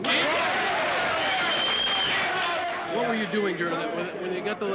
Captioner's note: cheering and applause